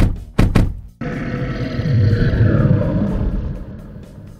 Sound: snarl

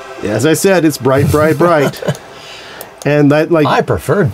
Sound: laughs

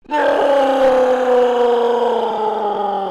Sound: growling

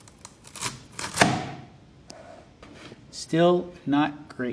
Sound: onion slicing

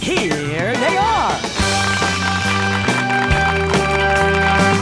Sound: applause

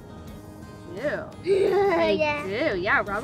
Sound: laughing

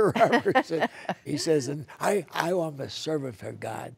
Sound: laughter

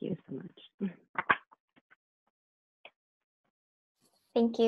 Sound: all clapping

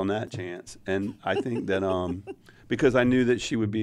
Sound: laughs

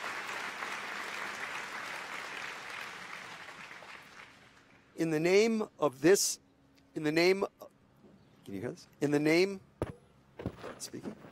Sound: applause

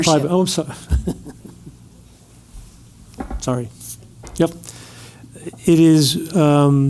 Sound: laugh

